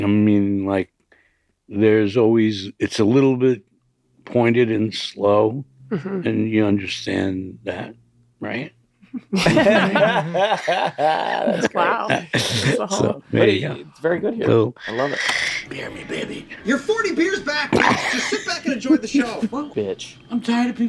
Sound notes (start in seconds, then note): 9.2 all laughing loudly